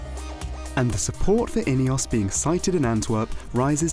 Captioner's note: male Voice